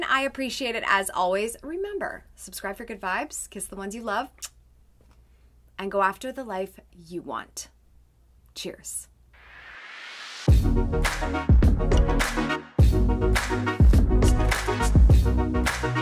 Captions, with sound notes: I appreciate it as always. Remember, subscribe for good vibes, kiss the ones you love (kisses) and go after the life you want. Cheers. (urban upbeat music)